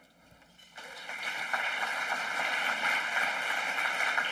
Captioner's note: applause